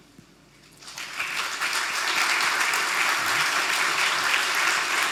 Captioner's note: audience applauding